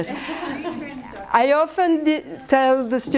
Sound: laughter

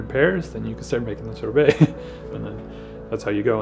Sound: laughs

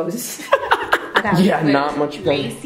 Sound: laughs

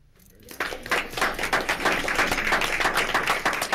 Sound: applauding

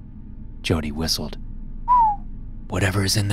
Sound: whistles

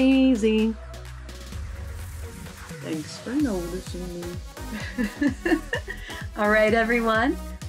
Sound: laughter

